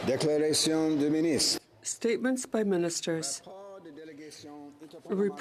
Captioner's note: speaking French